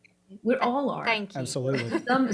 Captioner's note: laughs